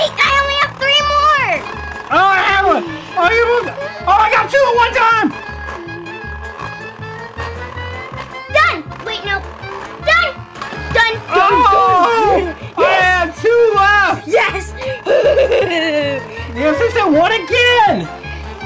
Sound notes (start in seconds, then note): 15.0 laughter